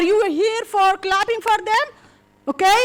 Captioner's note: clapping